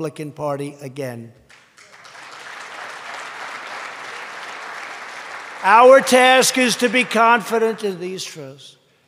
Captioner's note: applause